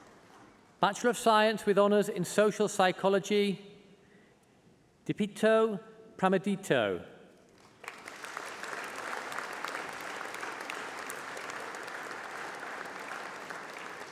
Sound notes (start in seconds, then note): 10.5 applause